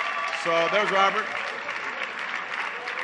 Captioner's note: applause